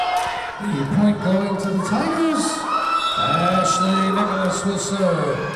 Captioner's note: whistle blowing